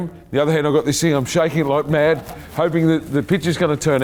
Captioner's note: laughing